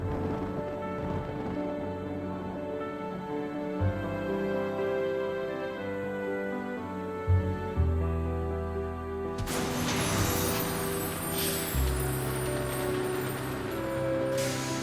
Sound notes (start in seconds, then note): 0.0 thunder rumbling; 4.7 brakes squeaking; 4.7 bus decompressing